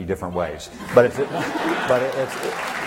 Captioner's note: laughter and applause